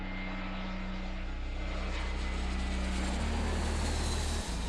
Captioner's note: light music; jet engines whining